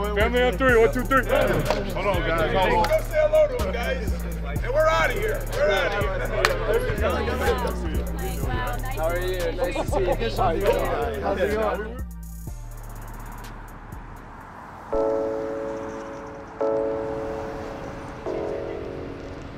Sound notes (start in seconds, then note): 6.4 hand clap; 16.3 soft music